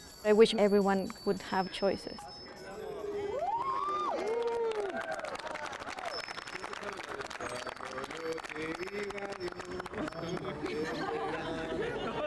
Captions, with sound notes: I wish everyone would have choices. [CLAPPING]